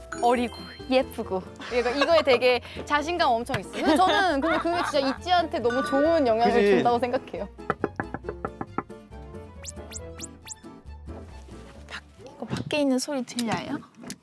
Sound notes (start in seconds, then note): 7.6 knocking